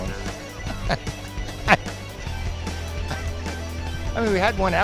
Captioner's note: laughs